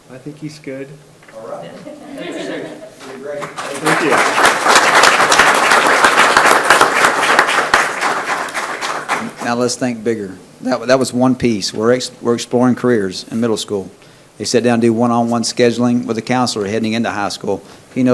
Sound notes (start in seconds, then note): 1.6 people laugh; 4.5 people clap